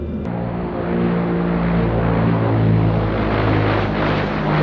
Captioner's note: plane engine roaring